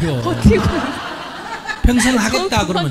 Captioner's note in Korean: 질문자와 청중 웃음